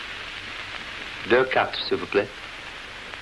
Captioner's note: French